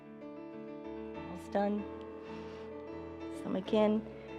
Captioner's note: inhales